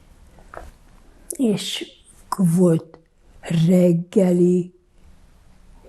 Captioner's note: counting